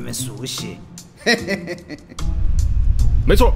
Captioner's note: laugh